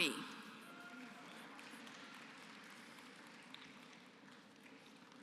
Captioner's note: applause